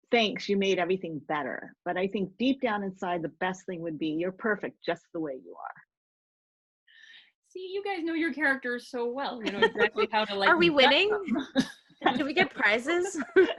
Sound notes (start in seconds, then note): 12.1 laughing